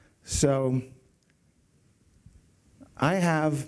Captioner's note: none